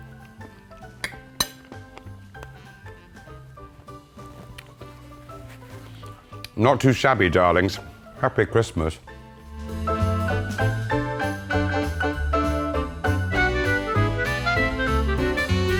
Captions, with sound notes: [spoon clangs] [bright music] Not too shabby, darlings. Happy Christmas. [bright music]